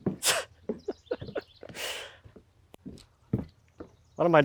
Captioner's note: laughing